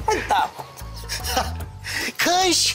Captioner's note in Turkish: Gülme sesi